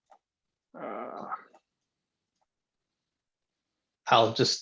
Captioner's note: groaning